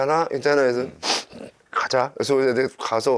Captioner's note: sniffling